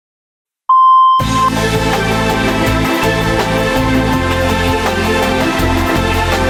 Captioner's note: beeping; upbeat music